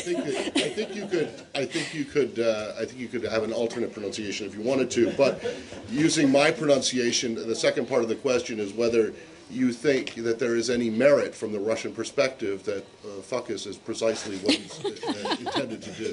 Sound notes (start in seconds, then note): 0.0 laughter; 5.0 laughter